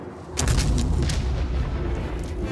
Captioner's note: canon explosion